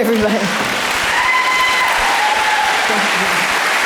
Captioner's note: audience applause